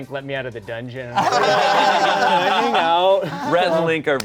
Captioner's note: everyone laughing